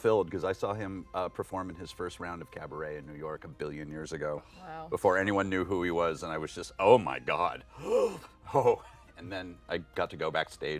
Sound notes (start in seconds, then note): 7.7 gasps